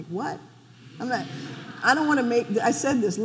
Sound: audience laughing

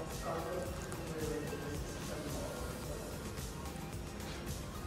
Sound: background chatting

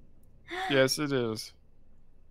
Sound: gasps

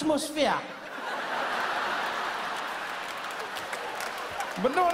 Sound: audience laughing

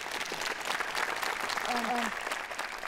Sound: applause

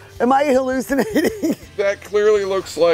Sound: laughing

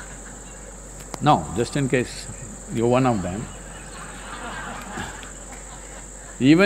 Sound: laughter

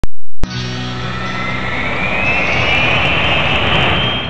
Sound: jet engine roaring

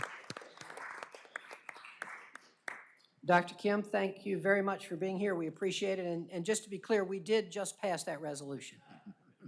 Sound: applause

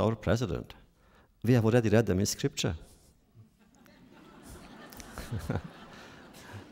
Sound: laughter

